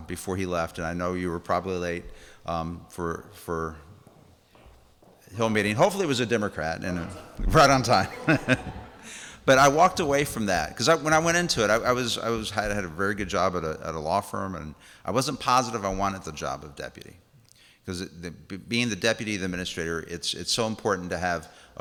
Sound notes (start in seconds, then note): 8.4 laughs